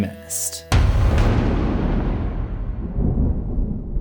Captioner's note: impact